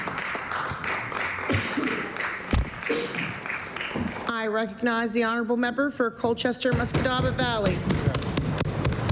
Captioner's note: applause